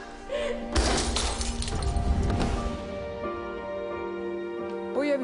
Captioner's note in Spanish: Estrépito de vidrios rotos